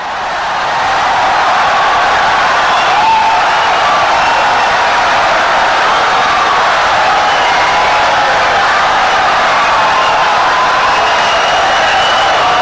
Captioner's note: wild applause and cheering for 17 seconds